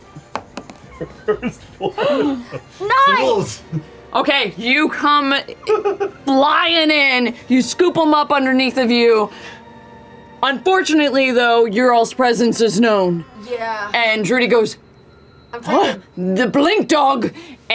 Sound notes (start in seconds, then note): 0.8 laughs